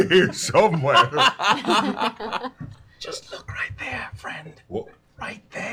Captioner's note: whispering